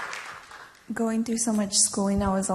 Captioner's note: applause